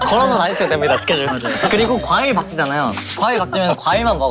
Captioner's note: burst into laughter